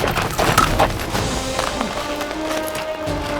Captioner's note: grunts